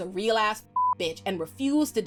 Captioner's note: beep